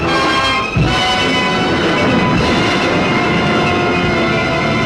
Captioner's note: suspenseful music; waves roaring